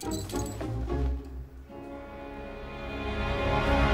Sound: clopping sound

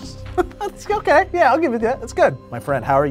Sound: laughs

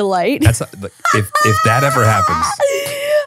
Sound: laughing

